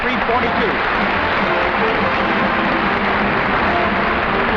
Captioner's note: audience applauding